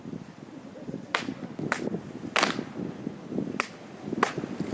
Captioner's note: claps off